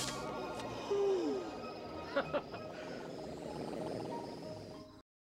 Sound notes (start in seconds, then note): 0.9 Phillip Laughs